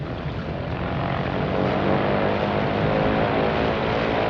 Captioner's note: engine revs